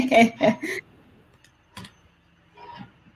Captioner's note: laughs